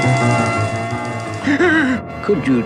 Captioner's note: Adam West Gasps